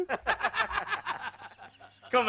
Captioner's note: laughing